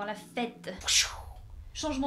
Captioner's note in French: Bruitage